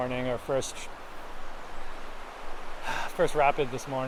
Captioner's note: water rushes